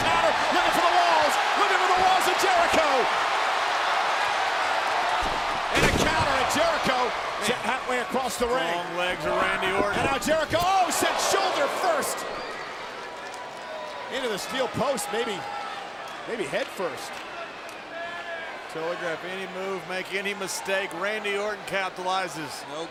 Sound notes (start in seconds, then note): 0.7 applause